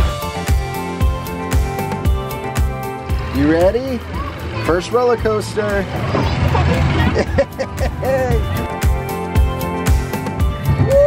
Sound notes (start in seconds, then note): 0.3 bright music; 6.3 laughing